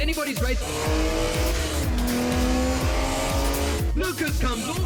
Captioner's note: cars revving